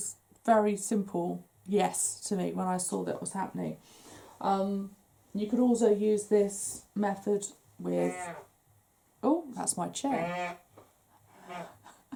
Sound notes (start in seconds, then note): 8.0 squeaks; 11.4 laughs